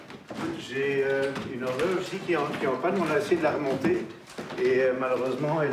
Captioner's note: speaking in foreign language